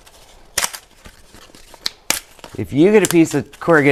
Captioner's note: cardboard clicks